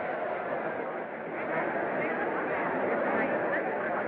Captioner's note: chattering, Muttering